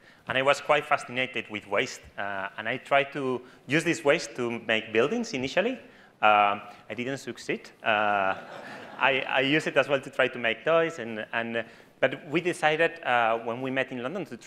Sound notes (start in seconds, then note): 8.2 audience laughs